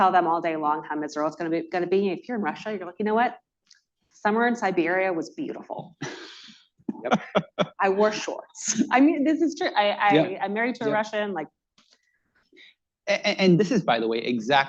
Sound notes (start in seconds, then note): 6.9 laughter